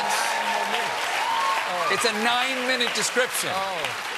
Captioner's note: cheers and applause